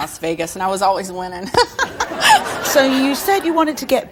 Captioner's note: laughs